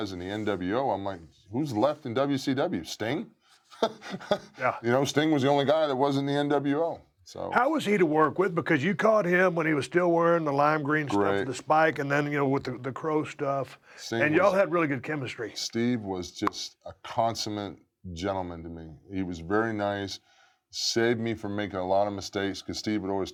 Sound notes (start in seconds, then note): 3.7 laugh